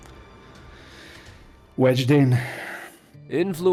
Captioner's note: deep sigh